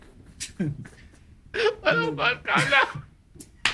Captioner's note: speaking in foreign language